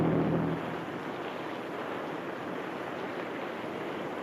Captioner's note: waves crash